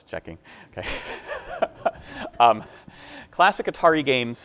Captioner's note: laughing